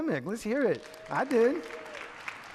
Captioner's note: audience clapping